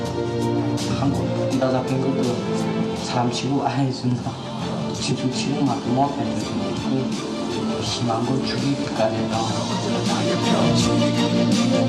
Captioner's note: speaking korean